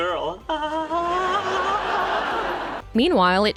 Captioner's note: geeky laugh